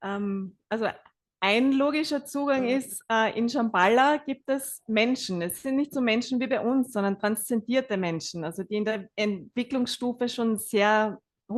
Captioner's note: German live translation